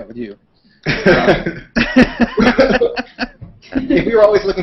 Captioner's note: laughter